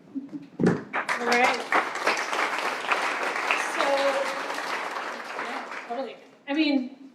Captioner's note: applause